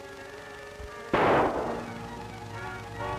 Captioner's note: gunshot